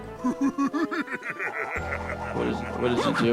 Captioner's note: Russell laughing sinisterly